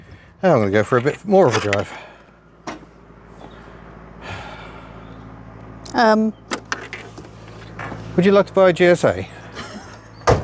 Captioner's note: engine fails to start, electrics die